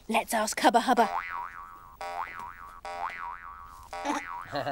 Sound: bouncing

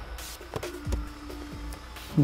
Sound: sliding down window

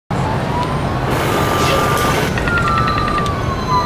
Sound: sirens; heavy machinery; car alarms

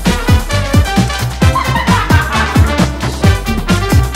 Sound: laughing

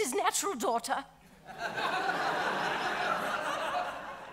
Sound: audience laughing

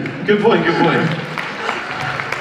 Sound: applause

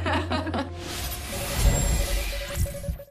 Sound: laughter

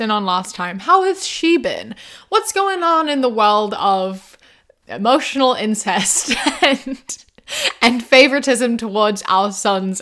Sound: laughs

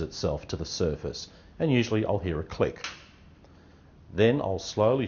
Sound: metal click

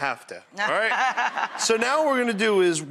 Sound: laughing

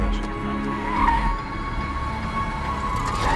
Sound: tires screech

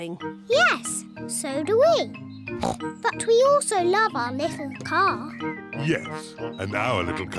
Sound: snorts

